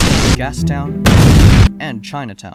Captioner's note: explosion